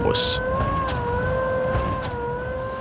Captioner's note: high-pitched whirring